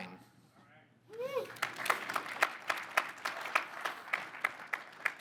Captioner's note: audience applauding